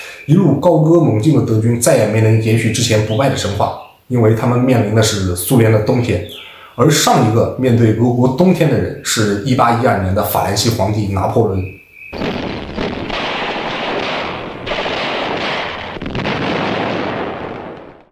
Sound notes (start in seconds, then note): 12.1 sound of artillery